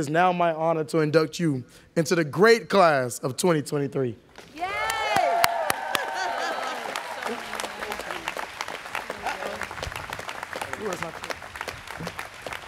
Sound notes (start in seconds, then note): 6.1 laughing; 8.8 students clapping